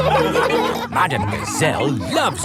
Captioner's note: laughing